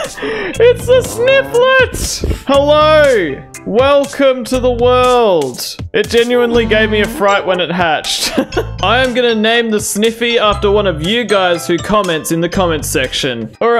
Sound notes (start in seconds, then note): 0.0 wheezes; 6.4 laugh